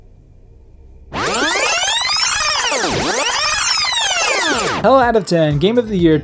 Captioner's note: tape being rewound